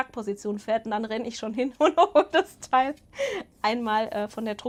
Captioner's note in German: Gelächter